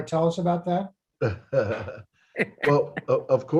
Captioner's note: laughs